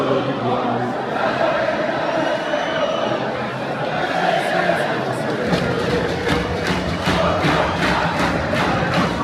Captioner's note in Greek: χειροκροτημα